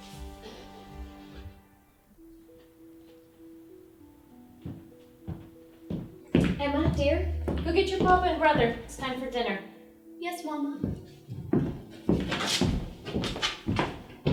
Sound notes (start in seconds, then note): 1.0 kissing